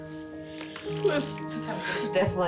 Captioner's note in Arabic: يتمتم من خلال البكاء